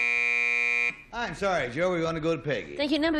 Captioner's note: buzzer